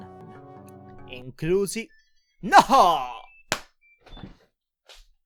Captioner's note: random telephone